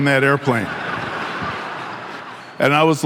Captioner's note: audience laughing